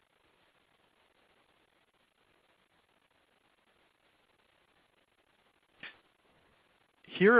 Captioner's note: silence